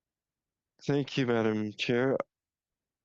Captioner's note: speaking French